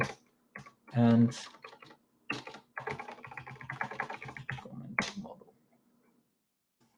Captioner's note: keyboard clacking